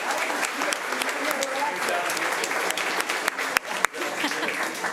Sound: indistinct conversation

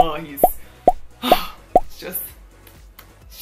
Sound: sigh

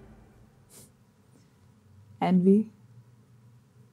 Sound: wistful scoff

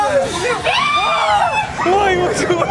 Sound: screaming

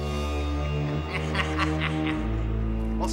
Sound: cackling

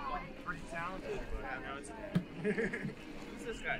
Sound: laughs

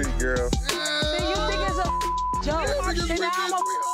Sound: beep

